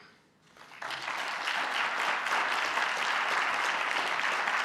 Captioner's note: audience clapping